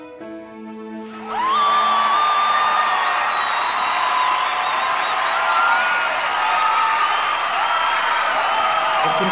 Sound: applaus and cheering

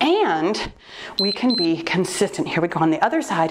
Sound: timer beeps

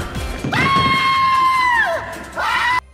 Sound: Luigi's blood curdling scream

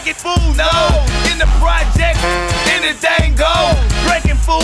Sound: horn honks

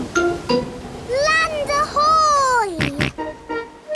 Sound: snorts

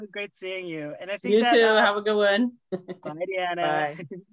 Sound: laughter

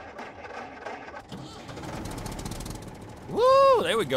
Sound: sounds of engine cranking; engine starts

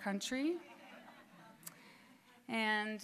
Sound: students laughing

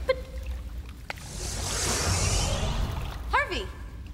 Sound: magic whirs

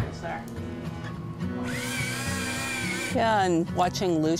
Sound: electrical spinning

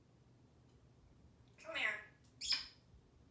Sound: smooch

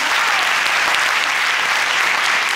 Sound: audience applauding

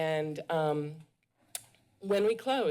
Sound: none

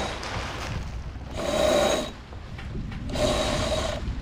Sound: grinding

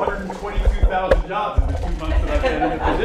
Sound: laughter

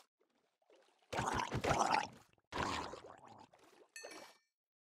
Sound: gurgling

